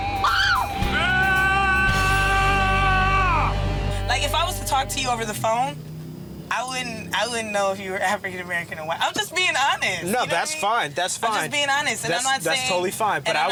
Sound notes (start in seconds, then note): 0.1 screaming sound effects